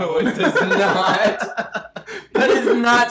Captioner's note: both laughing